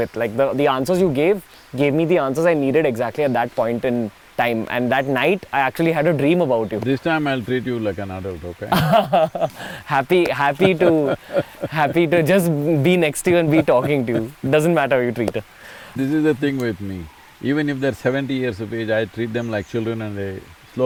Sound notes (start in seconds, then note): 8.6 laughs; 11.5 Sadhguru laughs